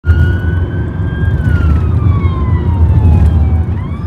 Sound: sound of police siren throughout

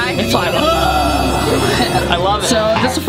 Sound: grunts; laughs; chuckles

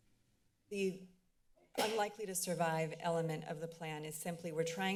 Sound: banging sound

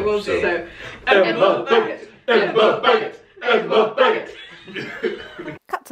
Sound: chanting

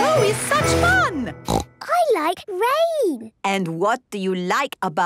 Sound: snorting

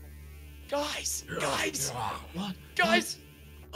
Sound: grunts

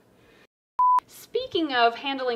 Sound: tone beeping

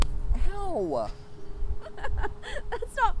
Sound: laughs

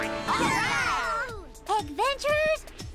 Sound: cheering

